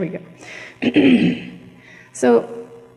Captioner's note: clears throat